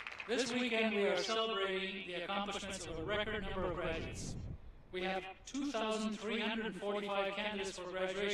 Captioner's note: applause